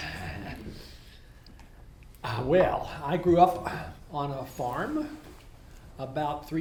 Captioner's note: laughs